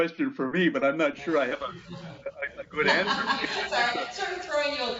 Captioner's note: laughter